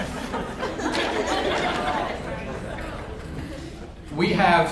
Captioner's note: audience laughs